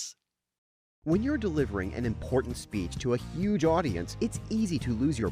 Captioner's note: voiceover